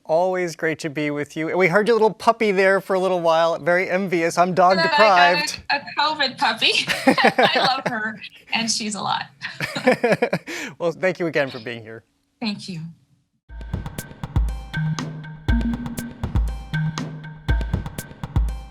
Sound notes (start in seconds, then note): 6.8 both laugh; 9.5 laughing